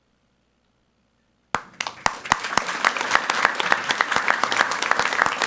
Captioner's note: people clapping